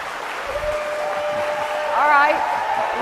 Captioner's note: cheers and applause